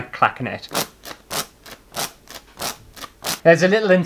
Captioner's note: fan Clacking